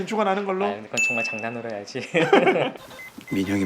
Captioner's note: laughing